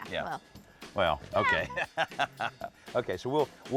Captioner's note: laughs